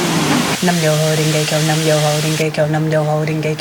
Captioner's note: chanting